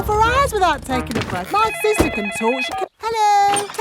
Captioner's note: cellphone ringing